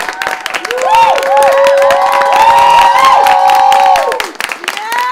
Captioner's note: applause